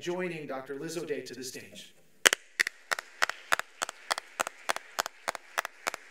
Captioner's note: audience applauds